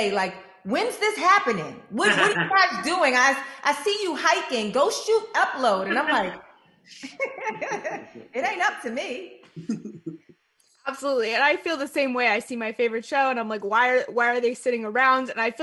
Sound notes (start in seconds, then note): 7.0 laughs; 9.6 laughs